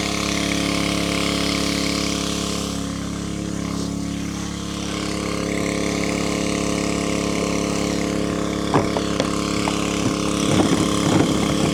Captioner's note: motor running